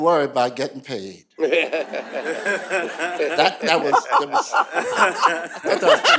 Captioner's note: laughter